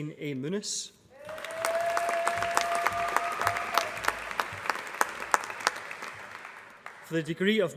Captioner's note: applause